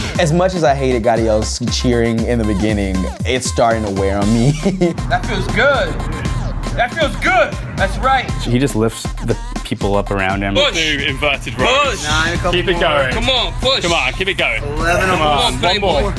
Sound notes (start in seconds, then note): 3.9 chuckles